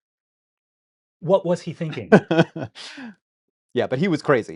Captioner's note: laughs